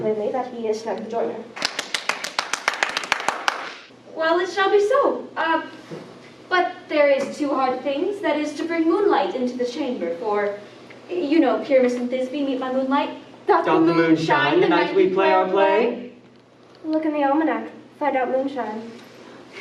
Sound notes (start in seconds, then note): 1.5 group applauding